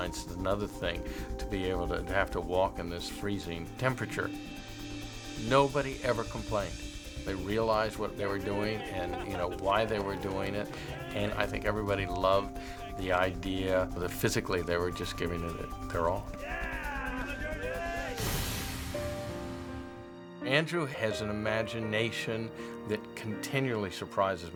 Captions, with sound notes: and another thing to have to walk in this freezing temperature. Nobody ever complained. They realized what they were doing and, you know, why they were doing it, and I think everybody loved the idea that, physically, they were just giving it their all. (ALL CHEERING) Andrew has an imagination that continually surprises me.